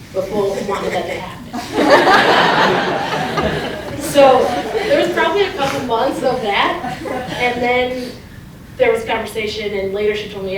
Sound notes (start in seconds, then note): 0.2 laughter